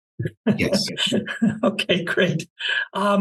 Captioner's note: laugh